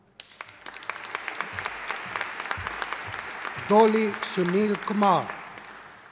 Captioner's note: audience applauding